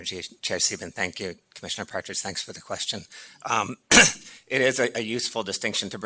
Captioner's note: clears throat